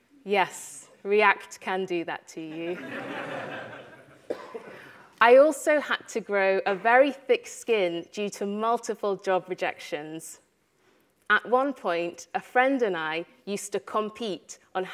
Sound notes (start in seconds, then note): 2.6 audience laughter